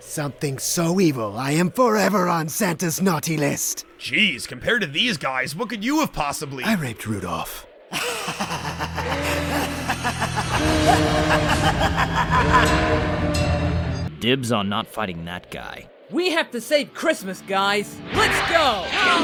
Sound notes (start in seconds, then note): 8.0 Sounds of Reese laughing along with Rudolph's pained cries